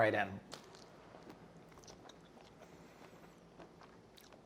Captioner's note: food crunches